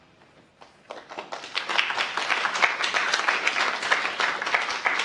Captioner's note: applause